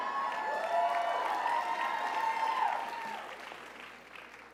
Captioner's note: crowd cheers